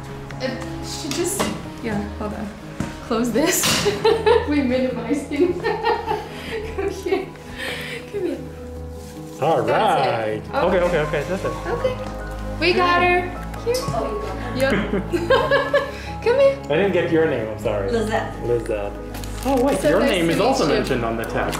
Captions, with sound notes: uh, she just, yeah hold on. Close this [Laughter] we minimize things. [Laughter] Okay, come here. Alright. That's it. Okay, okay, okay, just wait. Okay. We got her. Hey. Here. Oh you got her. Yeah. [Laughter] Come here. I didn't get your name, I'm sorry. Lizette. Lizette. Oh wait your name is also mentioned on the text. So nice to meet you.